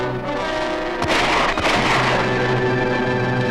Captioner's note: gun shots ring out!